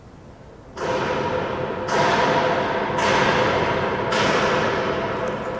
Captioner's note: more loud banging